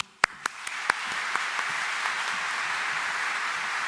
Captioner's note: audience applauds